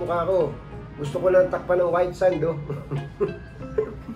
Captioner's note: laugh